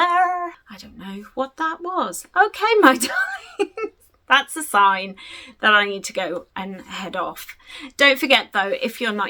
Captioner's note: laughs